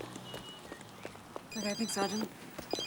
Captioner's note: woman chattering; phone ringing